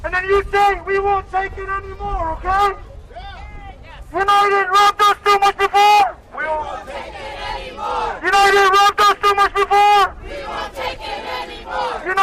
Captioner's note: shouting